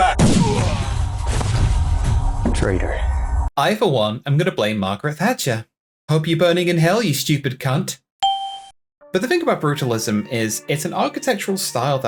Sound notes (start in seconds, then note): 8.2 Windows Ding